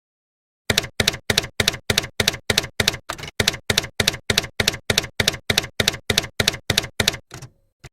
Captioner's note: typewriter keys clacking